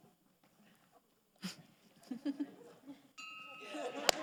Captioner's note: laughs; all laughs